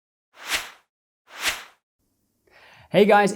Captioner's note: air whooshes